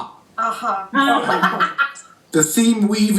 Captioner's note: laughter